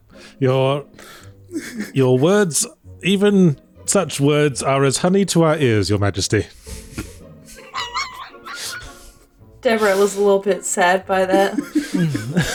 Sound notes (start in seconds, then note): 6.6 laughs in anti-posh